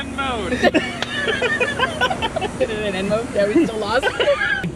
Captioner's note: laughs